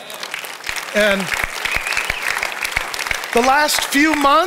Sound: audience applauding

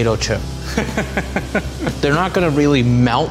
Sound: laughs

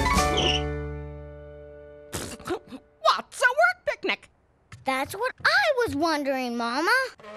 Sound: squeak

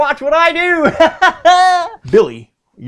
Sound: laughter

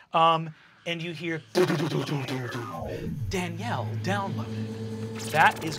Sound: electronic banging

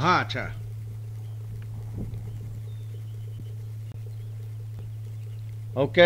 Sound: native American speaking foreign language

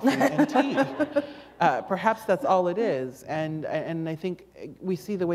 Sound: laughter

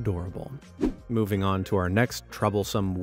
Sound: air whooshing

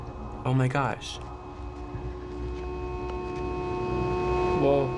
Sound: continuous honk

